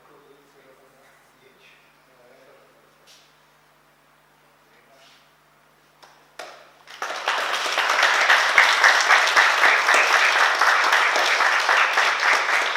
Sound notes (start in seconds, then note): 6.8 oklaski